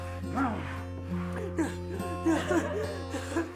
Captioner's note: assailants grunting; whimpers